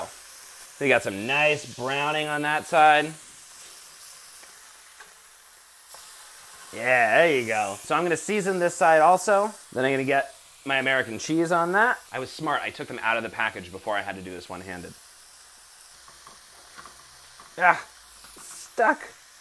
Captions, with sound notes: We've got some nice browning on that side. [sizzling] Yeah, there you go. So I'm going to season this side, also. Then I'm going to get my American Cheese on that. I was smart, I took them out of the package before I had to do this one handed. [sizzling] Ah! It's stuck.